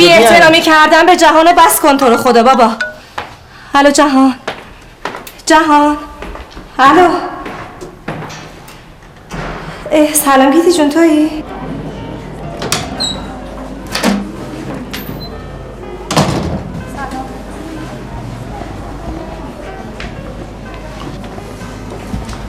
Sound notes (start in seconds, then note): 12.6 door closing; 12.6 door opening